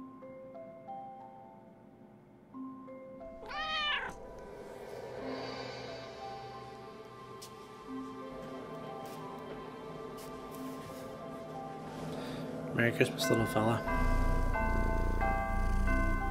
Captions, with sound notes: [cat meows] Merry Christmas little fella. [cat purrs]